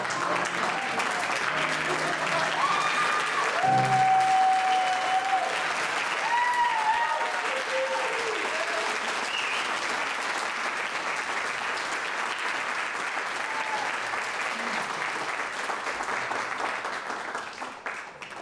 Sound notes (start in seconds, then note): 0.0 audience laughs; 6.2 audience cheers